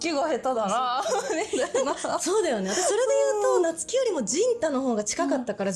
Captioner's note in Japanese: 笑い